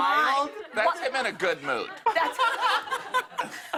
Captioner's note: laughter